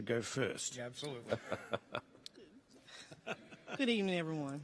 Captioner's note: chuckling